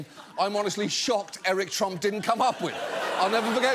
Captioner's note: audience laughs